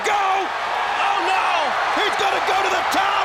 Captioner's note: crowd cheers